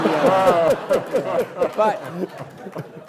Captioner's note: laughing